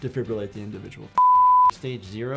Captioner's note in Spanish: suena un pitido